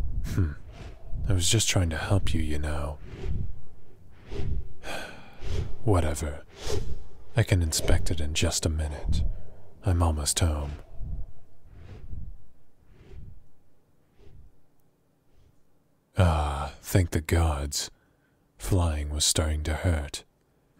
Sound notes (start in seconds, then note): 4.8 sigh